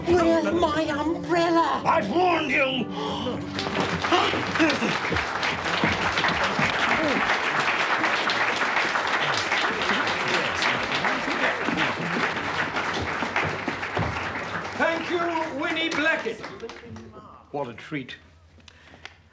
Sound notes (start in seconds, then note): 3.3 applause